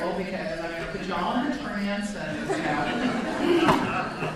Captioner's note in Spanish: risas de la audiencia